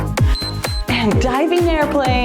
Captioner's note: timer beeps